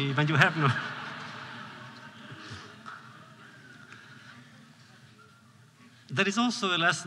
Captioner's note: laughter